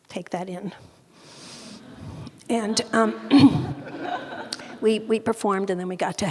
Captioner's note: audience laughing